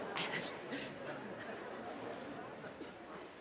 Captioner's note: laughter